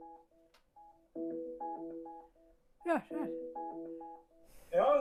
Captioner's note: the sound of a phone ringing